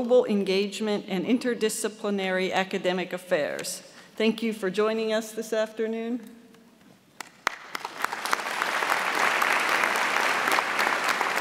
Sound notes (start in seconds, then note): 7.2 audience applauds